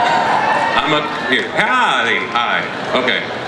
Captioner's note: voiceover